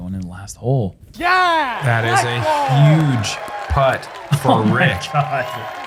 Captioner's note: applause